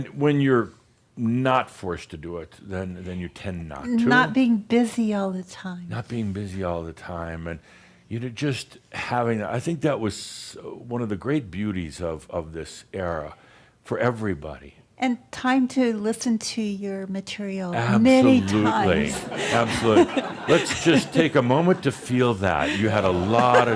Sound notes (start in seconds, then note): 18.2 laughter